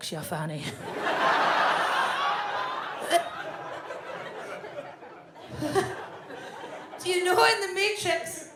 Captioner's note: audience laughs; Fern gags